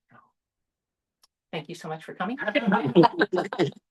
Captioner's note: laughter